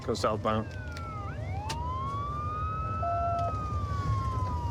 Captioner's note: sirens wailing